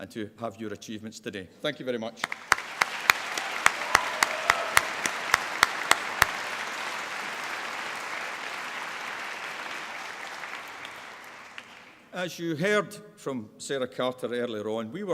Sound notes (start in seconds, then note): 3.3 applause